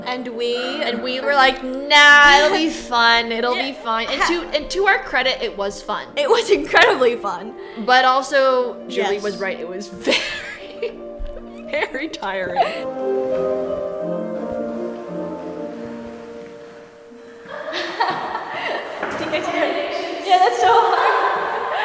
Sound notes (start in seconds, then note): 13.7 happy music; 16.7 laughs and gasps